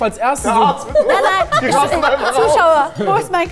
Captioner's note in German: Lachen, Durcheinanderreden